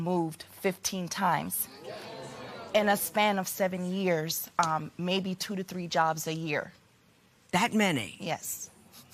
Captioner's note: spectators murmur